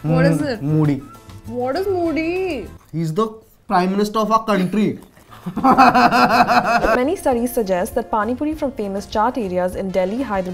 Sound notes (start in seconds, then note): 5.3 laughing